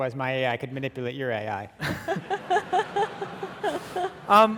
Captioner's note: audience laughing